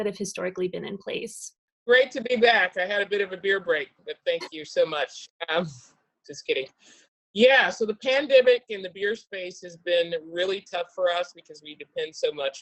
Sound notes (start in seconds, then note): 4.3 laughs